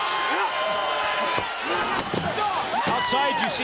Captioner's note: crowd chatter